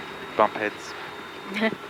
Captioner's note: chuckles